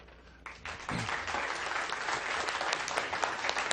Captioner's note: applause